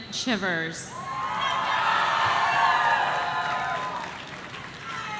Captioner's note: audience cheering